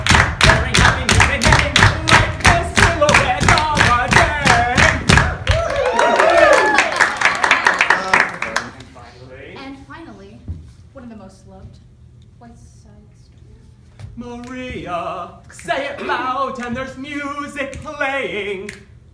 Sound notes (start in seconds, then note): 5.0 applause